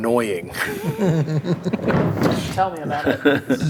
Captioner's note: players laughing